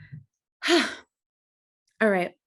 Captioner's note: sighs